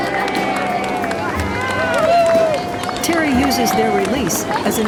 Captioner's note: applause and cheers